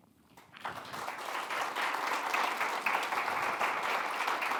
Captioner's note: attendees applauding